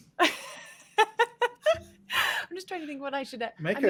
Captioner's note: laughs